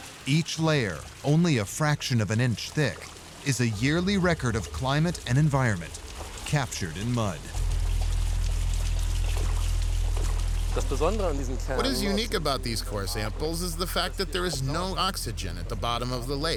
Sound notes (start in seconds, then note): 7.6 boat engine humming; 7.6 water splashing; 10.8 voice-over